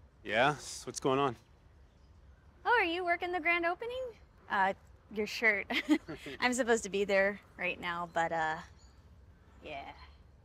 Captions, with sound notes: - Yeah. What's going on? - Oh, are you working the grand opening? Uh, your shirt. (chuckles) I'm supposed to be there right now but, uh, yeah.